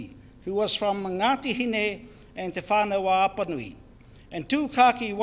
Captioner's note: speaks in foreign language